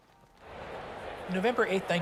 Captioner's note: prisoners of war shouting